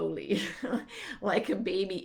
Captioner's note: chuckling